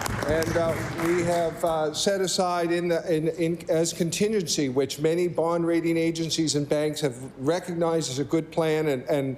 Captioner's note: applause